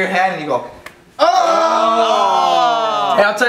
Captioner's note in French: gémissements